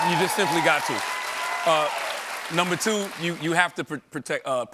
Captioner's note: applause